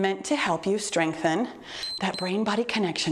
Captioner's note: timer beeps